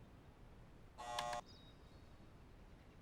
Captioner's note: door buzzes